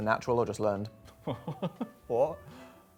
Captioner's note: laughing